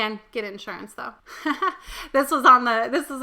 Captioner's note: chuckles